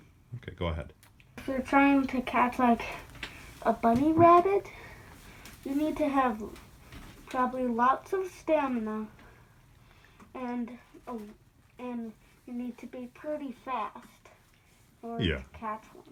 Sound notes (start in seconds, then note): 3.9 in a serious tone